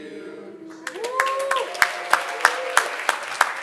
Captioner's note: audience Applauding